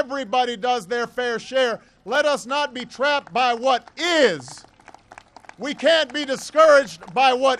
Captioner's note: applause